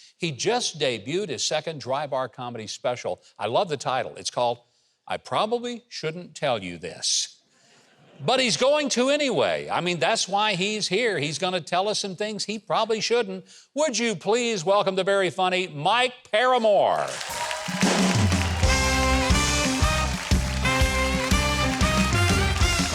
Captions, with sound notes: He just debuted his second dry bar comedy special. I love the title. It's called I Probably Shouldn't Tell You This. But he's going to anyway. I mean that's why he's here. He's gonna tell us some things he probably shouldn't. Would please welcome the very funny Mike Paramore. (audience clapping) (upbeat instrumental music)